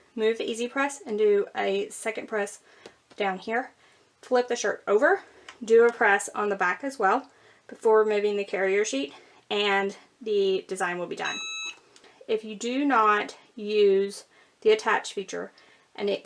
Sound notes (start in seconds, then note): 11.2 EasyPress beeping